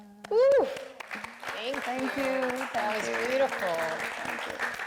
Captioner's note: audience applauds